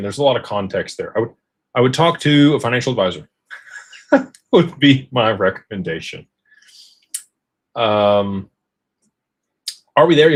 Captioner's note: laughter